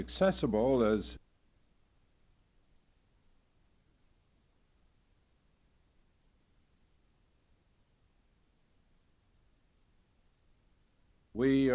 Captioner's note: silence